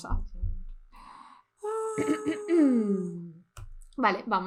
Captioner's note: wailing and crying